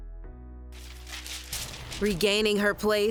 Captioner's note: paper fluttering